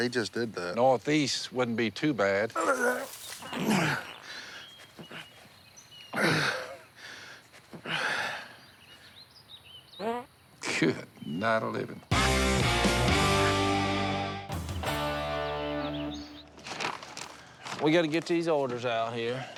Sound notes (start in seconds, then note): 2.5 throws up; 9.5 farts